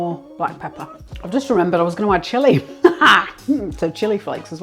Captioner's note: laughs